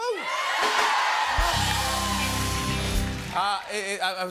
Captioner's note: cheers and applause